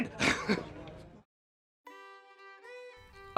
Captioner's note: laughs